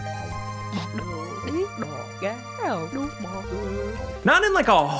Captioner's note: cake chattering